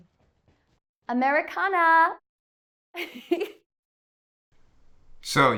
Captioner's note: chuckles